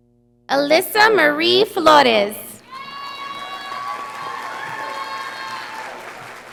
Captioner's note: audience applauding